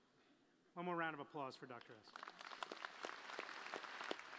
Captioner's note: applause